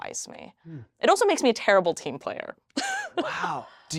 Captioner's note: laughs